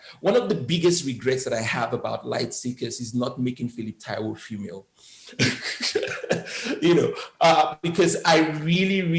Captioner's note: laughs